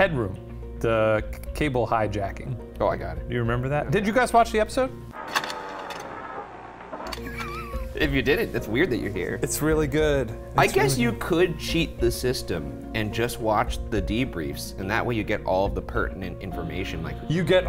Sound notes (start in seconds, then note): 5.3 projector clicking; 7.1 laughs